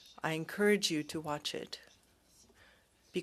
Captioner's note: speaking French